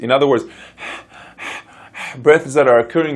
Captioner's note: panting